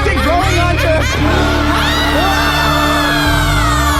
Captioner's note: MRS DODDS' laughter become maniacal. PERCY screams